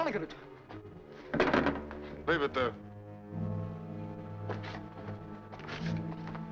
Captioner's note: gun clatters